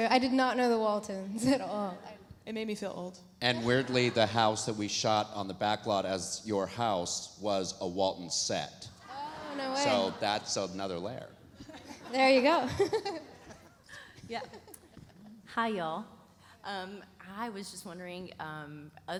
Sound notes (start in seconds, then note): 11.7 laughs